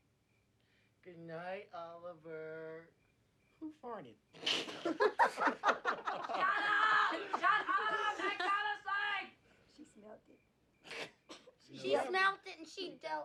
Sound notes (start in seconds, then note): 4.4 laughter